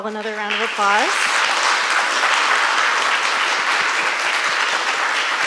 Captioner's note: audience applauding